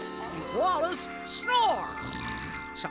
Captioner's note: snoring